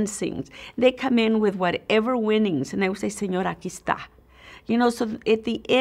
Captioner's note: Spanish language